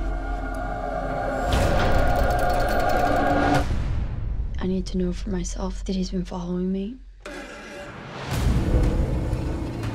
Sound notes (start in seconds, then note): 1.7 door cranking; 7.2 suspenseful music; 7.3 chair creaks